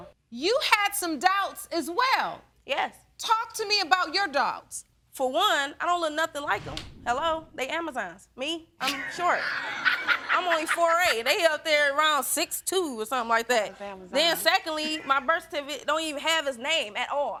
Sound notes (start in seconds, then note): 8.8 both laughing